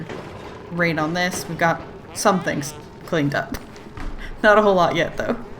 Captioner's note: laughs